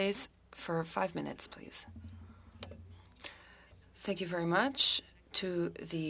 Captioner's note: speaking French